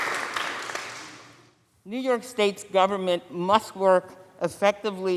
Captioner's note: applause